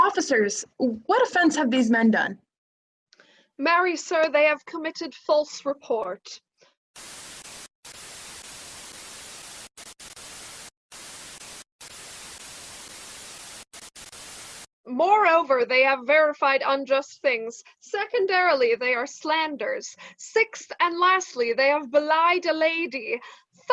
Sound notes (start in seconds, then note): 6.9 static noises